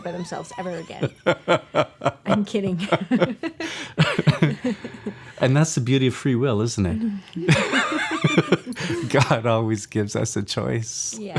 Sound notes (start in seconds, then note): 0.0 laughs; 7.4 both laughs